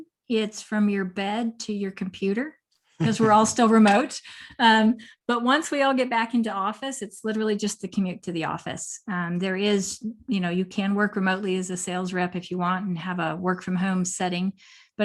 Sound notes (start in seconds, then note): 2.5 laughter